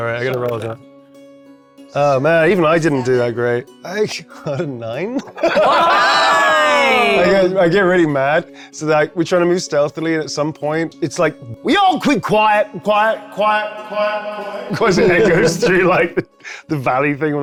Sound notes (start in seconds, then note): 5.1 laughing; 5.5 players shouting